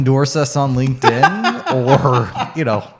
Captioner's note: laughs